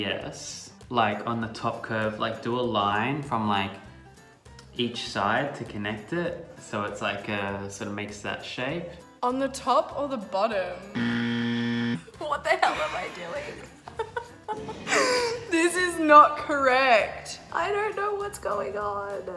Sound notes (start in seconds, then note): 10.9 buzzing; 12.6 laughing